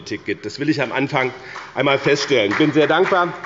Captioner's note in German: Beifall bei dem BÜNDNIS 90/DIE GRÜNEN und der CDU